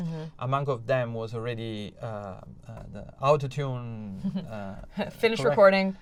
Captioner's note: laughter